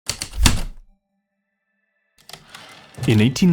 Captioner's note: typewriter clicks and slide